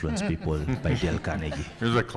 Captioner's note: attendees laughing